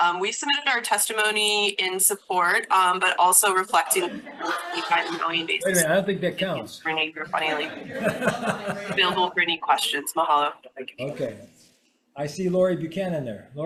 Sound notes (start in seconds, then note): 3.7 all laugh; 7.2 chuckles